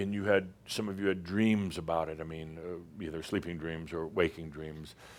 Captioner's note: none